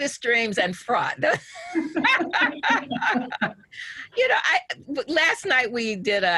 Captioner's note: both laughing